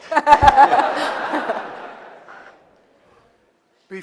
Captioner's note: laughter